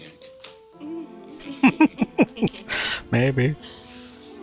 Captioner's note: laughing